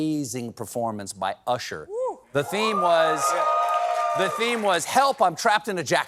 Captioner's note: cheering